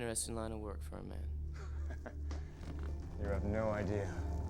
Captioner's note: chuckles